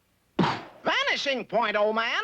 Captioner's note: poofs